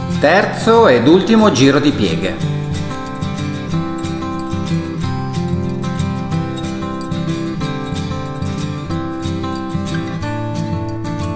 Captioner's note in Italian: Applauso